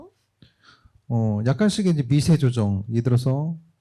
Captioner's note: speaking korean